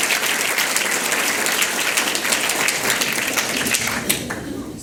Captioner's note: applause